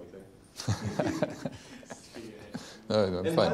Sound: laughs

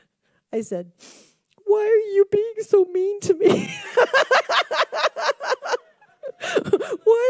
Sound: laughs

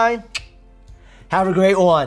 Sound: clicking his tongue

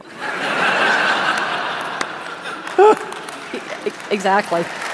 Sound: laughter

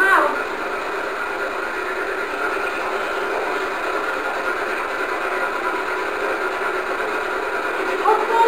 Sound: white noise

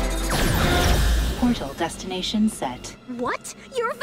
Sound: automated voice

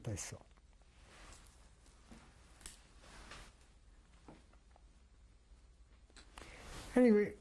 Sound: pauses for 6 seconds

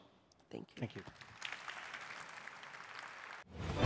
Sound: applause

